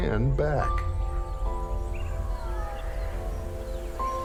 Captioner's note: birds chirping